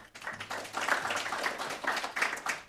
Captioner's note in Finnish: Aplodeja